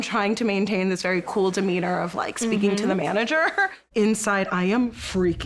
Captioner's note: laughs